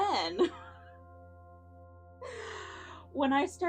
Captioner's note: laughs